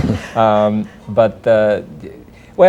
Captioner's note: laughter